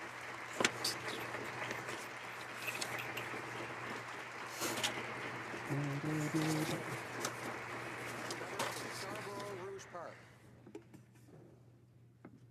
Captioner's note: applause